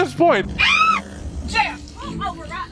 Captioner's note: passenger screaming